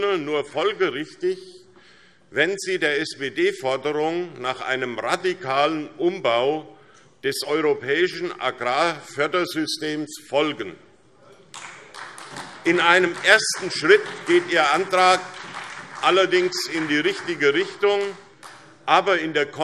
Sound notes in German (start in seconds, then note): 11.5 Beifall SPD